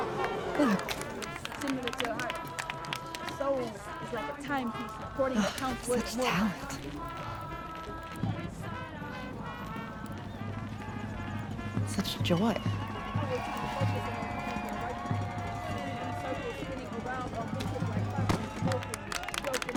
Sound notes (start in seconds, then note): 3.4 woman reciting poetry; 5.3 sighs; 14.3 music and cheering